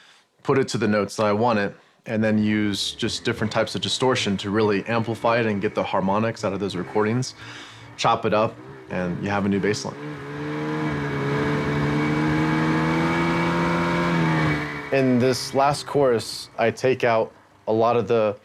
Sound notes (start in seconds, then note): 10.5 engine roaring